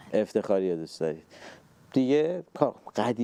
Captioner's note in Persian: none